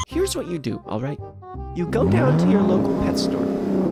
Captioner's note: none